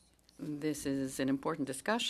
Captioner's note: speaking in French